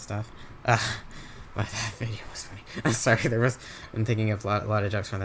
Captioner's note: laughs